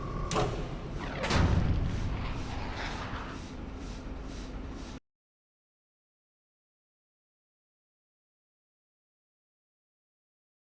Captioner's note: sound effect